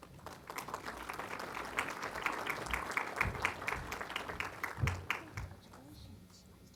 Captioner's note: applause